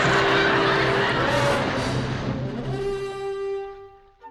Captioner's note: splash!